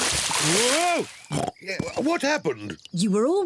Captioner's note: oinks